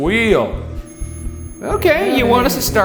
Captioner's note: REM pod screeching